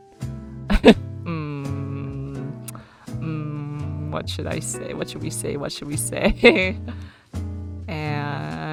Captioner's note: laughs